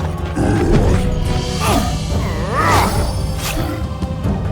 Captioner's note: monster roaring; character grunting